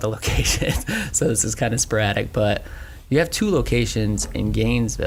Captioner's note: snorts